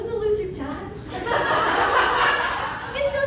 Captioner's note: laughter